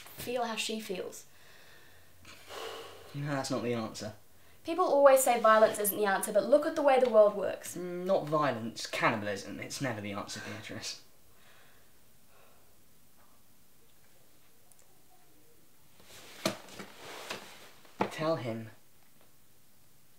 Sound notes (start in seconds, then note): 16.3 creaking